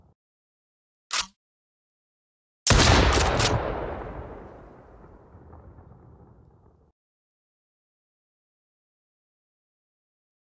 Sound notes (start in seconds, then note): 0.0 gun blasts; 0.0 gun clicks; 2.6 gun blasts; 2.7 gun clicks